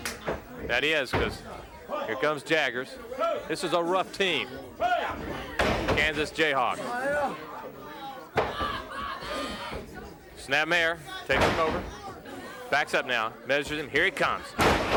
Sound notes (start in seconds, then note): 0.0 hands clapping; 4.9 blows thudding; 11.9 body thudding